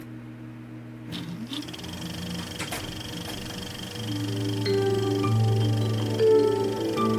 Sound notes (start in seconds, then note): 1.4 projector clicking; 3.9 gentle melody